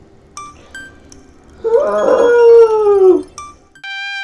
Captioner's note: screams of agony